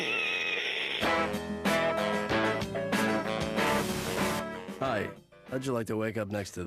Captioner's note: gasps